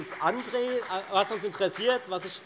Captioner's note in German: Beifall bei der FDP